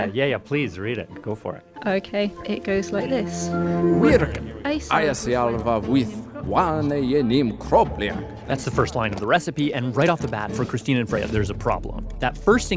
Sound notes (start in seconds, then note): 3.9 ARCHIVE CLIP: speaking Old English